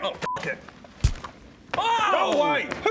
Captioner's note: wallop